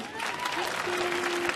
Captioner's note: audience applauding